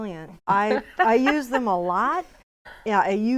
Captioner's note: laughing